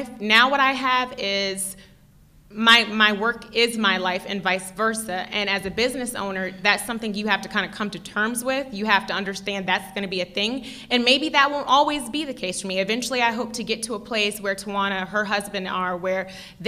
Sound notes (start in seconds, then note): none